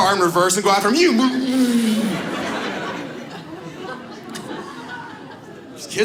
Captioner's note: audience laughs